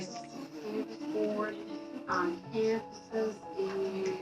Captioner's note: people mumbling